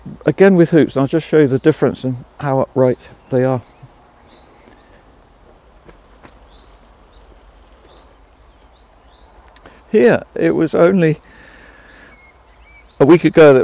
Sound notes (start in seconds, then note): 4.2 birds chirping; 4.2 footsteps stomping